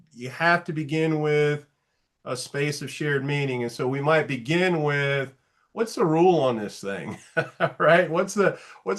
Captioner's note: light laugh